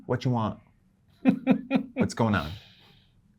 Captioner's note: guy laughing